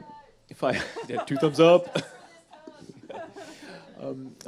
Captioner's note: chuckles